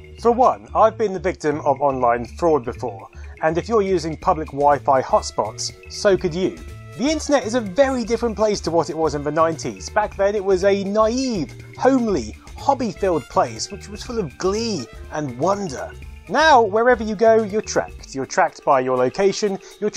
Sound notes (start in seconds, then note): none